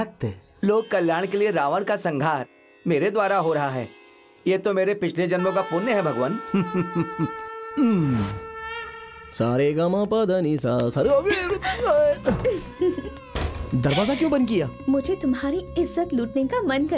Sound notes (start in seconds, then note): 6.5 Humming